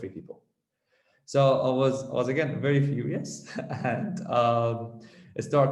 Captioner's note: chuckles